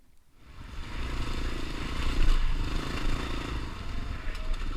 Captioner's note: motorcycle running